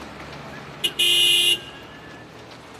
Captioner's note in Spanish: Claxon